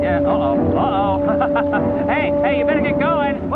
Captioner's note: intense music; laughs